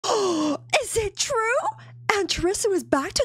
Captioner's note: gasp